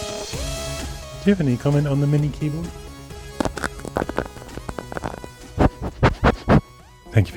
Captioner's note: crunching and sniffing